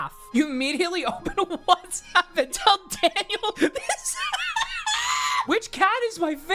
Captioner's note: laughs